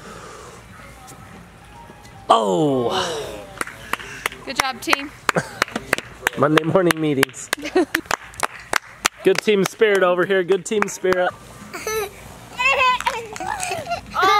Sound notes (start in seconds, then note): 5.2 clapping; 7.5 laughing; 7.8 clapping; 11.6 children laughing